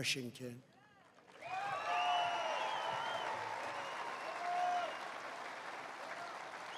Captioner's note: applause